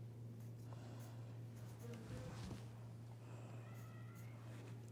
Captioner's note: pencil scratching